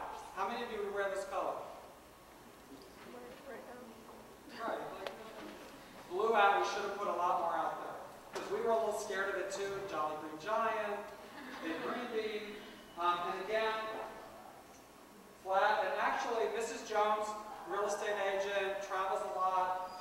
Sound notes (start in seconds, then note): 11.2 laughter